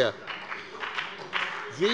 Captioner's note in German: Beifall bei dem BÜNDNIS 90/DIE GRÜNEN und der CDU